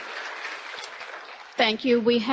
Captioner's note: applause